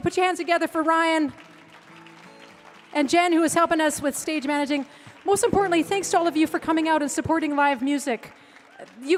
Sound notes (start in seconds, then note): 1.2 guitar strumming; 1.6 audience clapping; 8.6 audience cheering